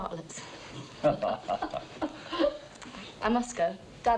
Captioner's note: all chuckling